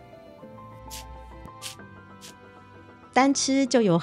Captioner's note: wet sound